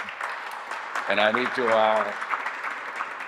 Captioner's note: audience applauding